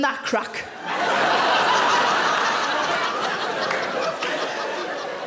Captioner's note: audience laughing